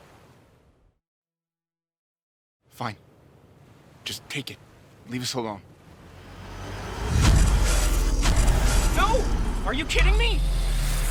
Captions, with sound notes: - Fine, just take it, leave us alone. (zapping) - No, are you kidding me?